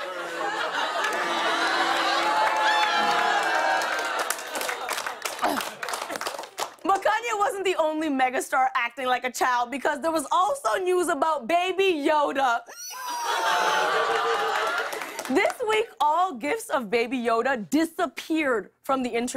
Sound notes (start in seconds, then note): 0.0 audience ohs; 1.8 applause continues; 11.9 squeals; 12.8 audience aws